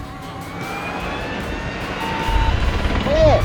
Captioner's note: dramatic music continues; tank revs